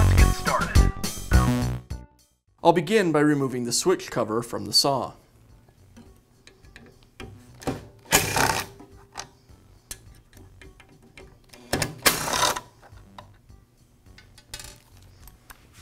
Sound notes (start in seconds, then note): 8.1 drilling sounds